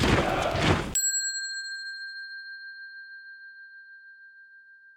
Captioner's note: bell dings